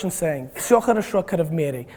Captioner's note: speaking Russian